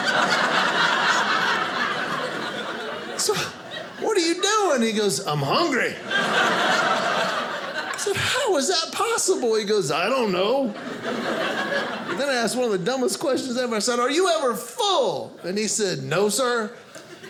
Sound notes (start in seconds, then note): 0.0 audience laughing